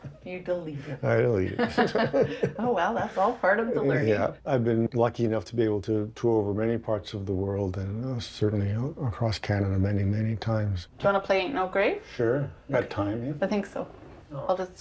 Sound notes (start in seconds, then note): 0.6 laughing